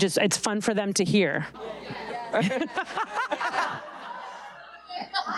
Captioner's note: audience laughing